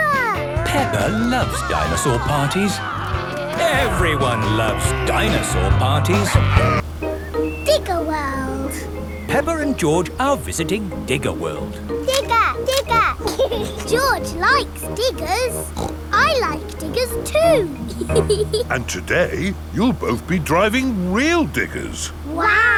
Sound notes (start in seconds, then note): 0.0 upbeat surf music; 13.6 laughs; 15.8 snorts; 18.1 laughs